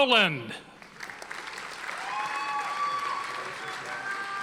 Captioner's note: audience applauding